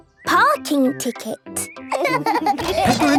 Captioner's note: laughing